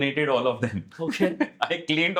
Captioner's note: laugh